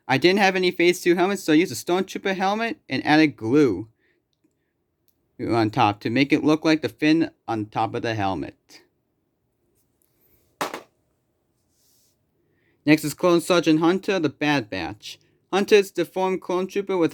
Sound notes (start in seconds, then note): 10.6 thud